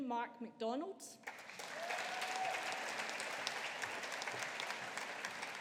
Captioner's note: audience applauding